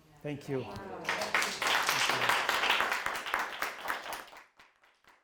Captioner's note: applause